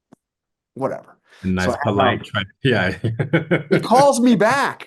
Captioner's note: chuckles